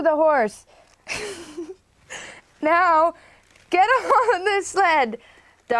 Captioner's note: laughing